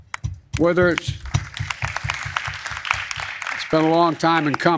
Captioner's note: applause